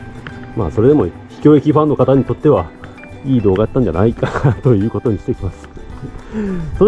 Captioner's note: laughs